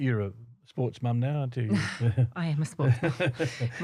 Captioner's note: laughter